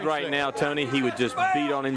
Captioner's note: crowd chatter